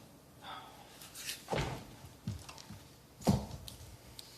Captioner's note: sighs